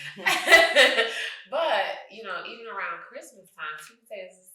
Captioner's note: laughing